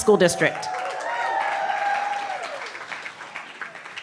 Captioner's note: cheering